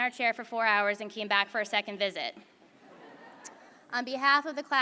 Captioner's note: laughter